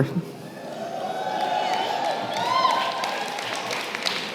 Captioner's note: applause